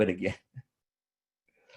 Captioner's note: chuckles